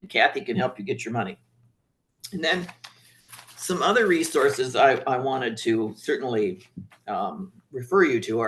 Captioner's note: papers shuffling